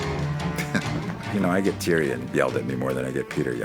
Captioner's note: chuckles